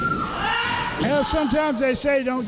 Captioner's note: yelling